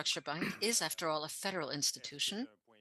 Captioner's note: speaking French